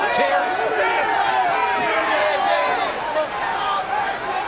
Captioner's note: crowd chattering